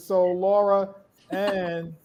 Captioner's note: laughs